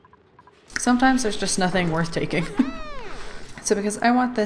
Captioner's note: laughs